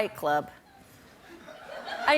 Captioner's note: laughter